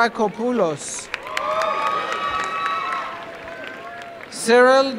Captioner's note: applause